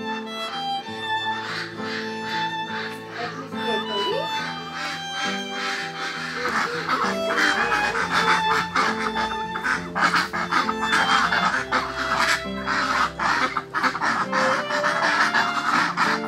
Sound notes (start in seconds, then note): 0.2 sentimental music; 9.9 ducks quacking